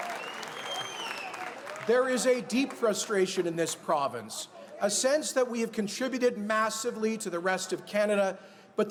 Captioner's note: cheers and applause